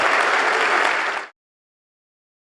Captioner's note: applause